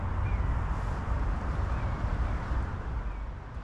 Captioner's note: bird calls